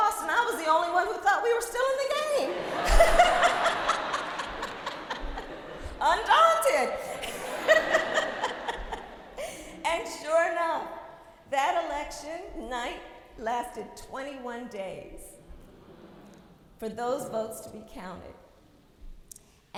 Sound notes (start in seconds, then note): 2.3 laughs